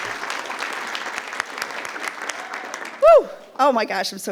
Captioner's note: attendees cheering; attendees applauding